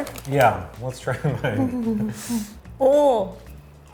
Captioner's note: laughing